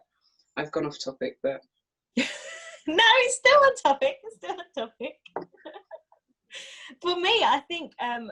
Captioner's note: laughs